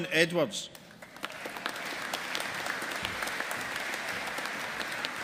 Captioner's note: audience applauding